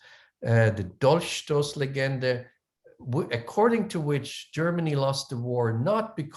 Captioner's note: german